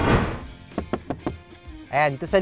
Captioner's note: knocking